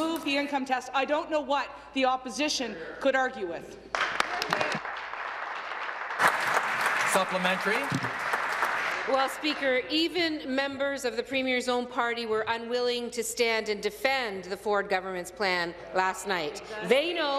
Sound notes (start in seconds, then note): 6.4 applause